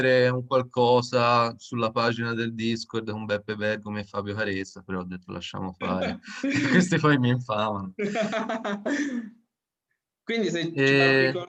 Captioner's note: laugh